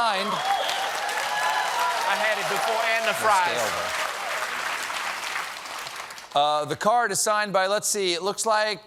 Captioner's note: applause